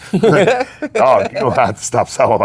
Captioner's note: laughing